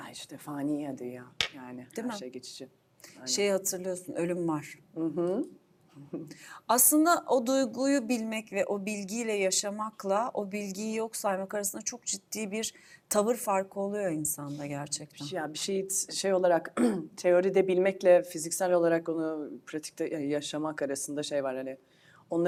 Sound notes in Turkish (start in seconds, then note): 16.8 boğazını temizler